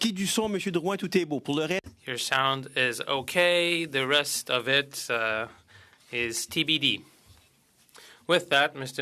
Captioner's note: speaking French